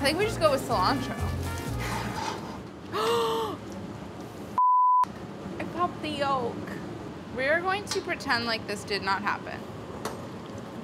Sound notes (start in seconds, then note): 2.9 gasp